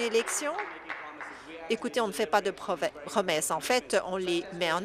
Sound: applause

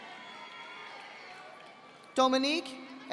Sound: audience applauding

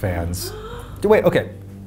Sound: gasps

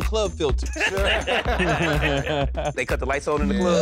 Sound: laughter

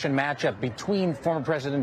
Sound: cheers

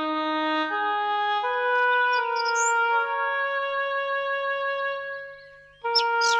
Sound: solemn music; birds chirping

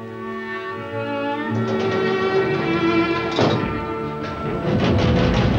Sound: engine sounds

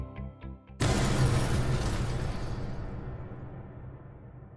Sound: explosion

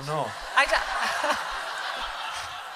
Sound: laughter

